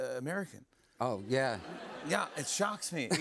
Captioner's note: laughter